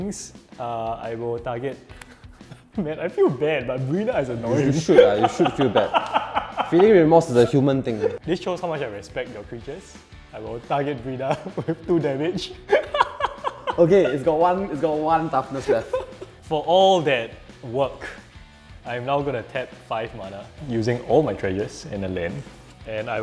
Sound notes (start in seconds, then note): 6.0 laughs; 12.6 laughs